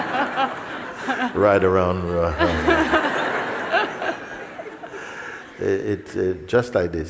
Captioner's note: laughter; laughter